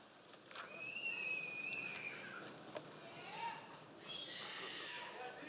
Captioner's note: members of the audience cheering